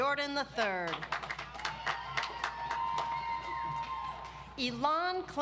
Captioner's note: audience applauds